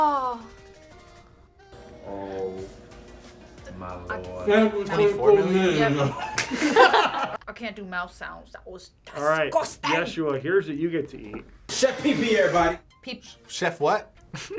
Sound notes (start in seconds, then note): 5.8 both laugh